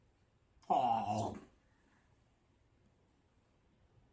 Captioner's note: makes chomping noise